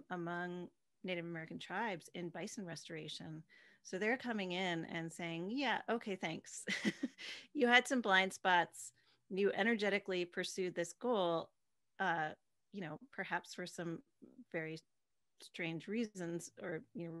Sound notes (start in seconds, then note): 6.6 laughing